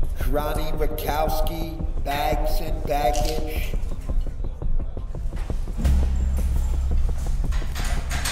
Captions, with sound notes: (Over intercom) Ronnie Rakowski, bags and baggage.